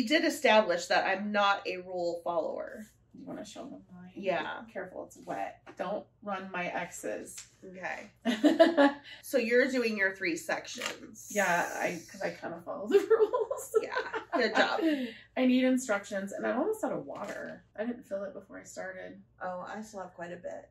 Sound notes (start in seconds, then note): 8.2 laughter; 12.9 laughter